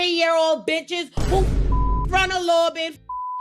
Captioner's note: beep